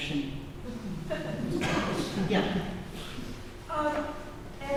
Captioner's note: laughter